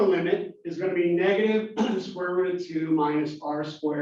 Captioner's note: cough